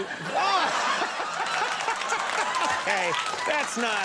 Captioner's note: audience laughs